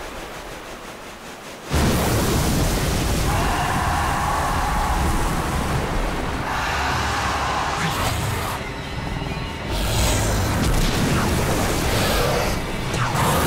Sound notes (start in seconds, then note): 2.9 screeching